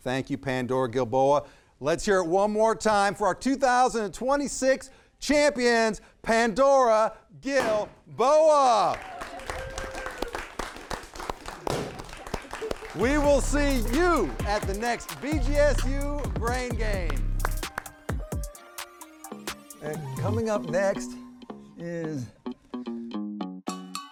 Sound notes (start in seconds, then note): 8.8 everyone cheering and applauding; 17.4 upbeat music; 23.6 upbeat music